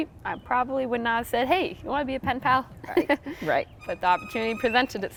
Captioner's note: laughing